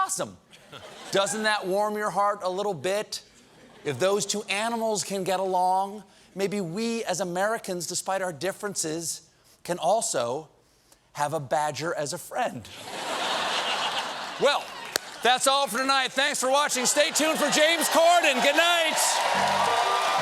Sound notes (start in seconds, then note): 12.7 laughter